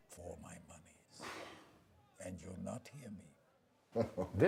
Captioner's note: sighs; laughs